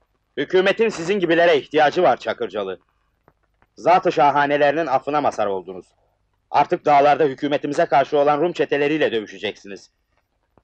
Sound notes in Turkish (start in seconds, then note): none